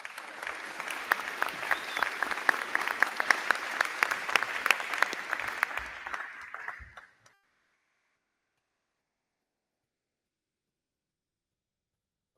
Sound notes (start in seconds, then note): 0.0 crowd cheering; 0.0 crowd clapping